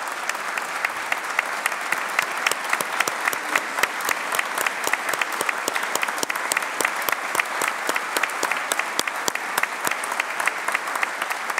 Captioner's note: applause